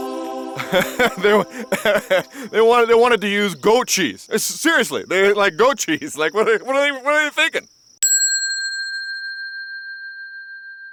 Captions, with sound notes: (Julius laughing) - They wanted to use goat cheese! Seriously! Like, goat cheese, like, what are they thinking? (bell ringing)